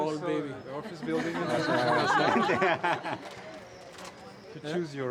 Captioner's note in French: Rires